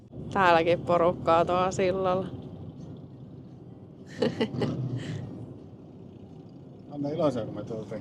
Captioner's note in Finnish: naurua